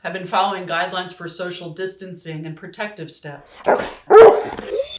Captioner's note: dog barks